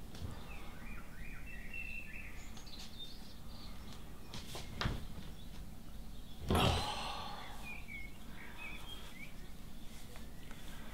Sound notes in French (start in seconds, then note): 0.2 Chant d'oiseaux; 6.5 gémit